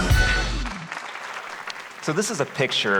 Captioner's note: applause